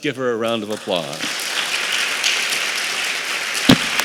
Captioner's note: applause